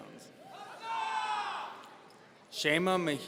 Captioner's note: audience cheering